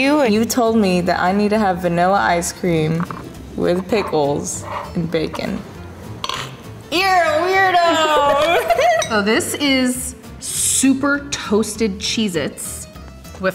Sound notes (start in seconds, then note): 8.0 laughing